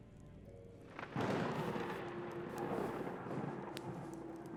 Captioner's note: thunder crashing